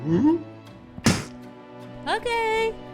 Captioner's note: spitting